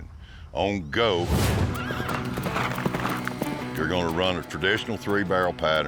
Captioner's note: horse neighs